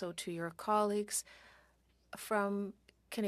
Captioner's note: speaking French